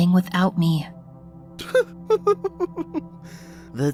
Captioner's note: chuckling